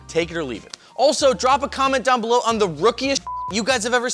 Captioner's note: beep